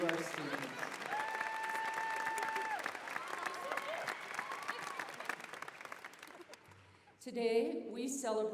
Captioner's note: applause, cheering